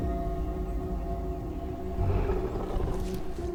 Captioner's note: low grunts